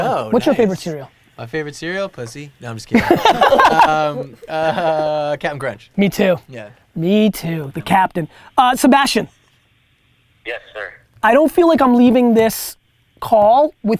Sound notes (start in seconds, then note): 2.9 Gary laughs